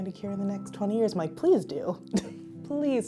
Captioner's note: laughs